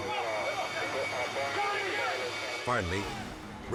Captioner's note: rescuers screaming indistinctly